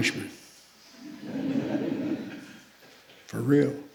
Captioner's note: laughter